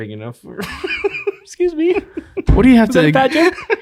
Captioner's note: snickering